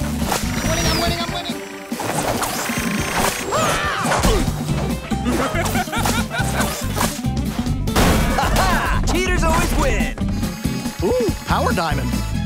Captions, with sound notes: I'm winning I'm winning! [screaming] [laughing] Ha ha! Cheaters always win. Ooh! Power diamond.